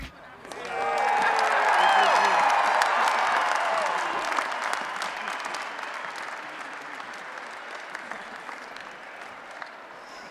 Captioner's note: applause and Cheering